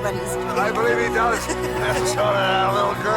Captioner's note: Renee laughing